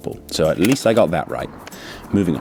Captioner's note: click